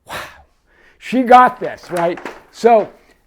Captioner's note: paper rustles